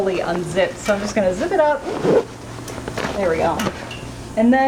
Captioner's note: zipper noises